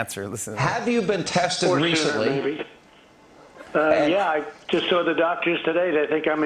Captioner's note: none